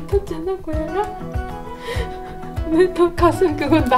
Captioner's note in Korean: 웃음